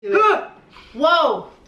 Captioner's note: shouting